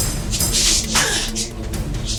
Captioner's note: smack